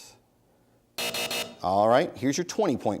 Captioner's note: buzzer sounds